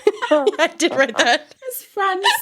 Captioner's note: laughs